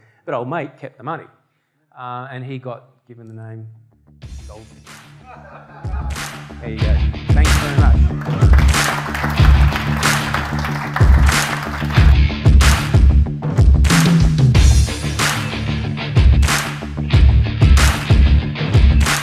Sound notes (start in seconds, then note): 4.8 rock music; 8.0 audience applause